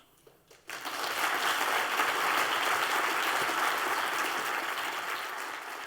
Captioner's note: applause